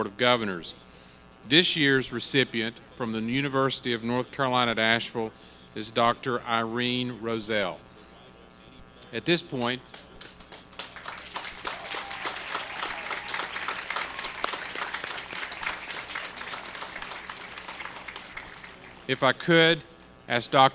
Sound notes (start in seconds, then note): 9.9 applause